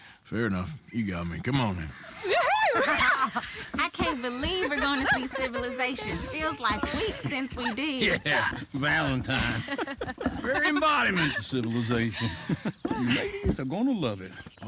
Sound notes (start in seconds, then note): 2.3 girls cheer and laugh